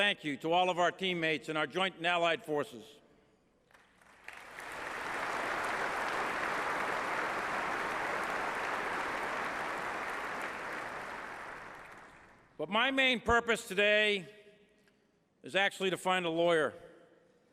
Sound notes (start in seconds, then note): 4.6 applause